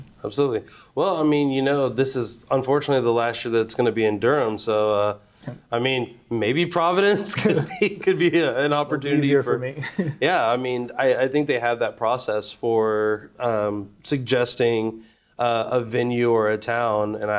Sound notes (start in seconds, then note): 7.2 both laughing